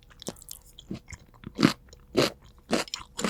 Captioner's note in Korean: 아삭아삭